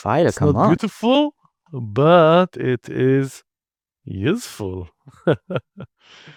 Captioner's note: chuckles